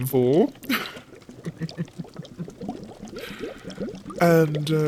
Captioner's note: Snape laughs